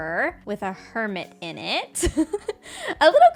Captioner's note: laughs